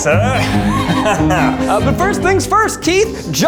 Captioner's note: speaks in foreign language; laughs